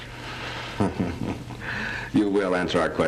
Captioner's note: Horton laughs